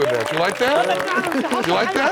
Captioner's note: non-english speech